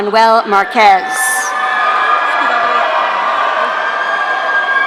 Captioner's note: audience cheering